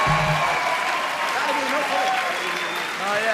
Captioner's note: people cheering